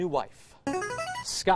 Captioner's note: buzzer